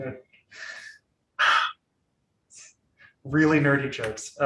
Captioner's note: sighs